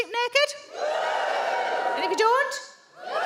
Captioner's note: audience woos